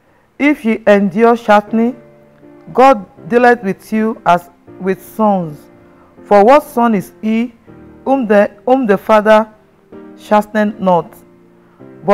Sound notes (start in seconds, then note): none